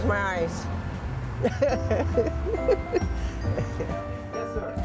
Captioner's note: chuckles